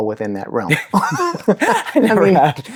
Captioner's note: both laughing